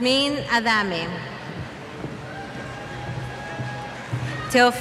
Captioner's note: cheers